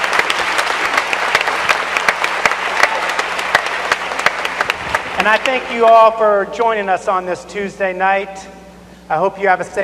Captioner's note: cheers and applause